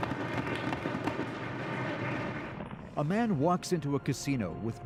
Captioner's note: applause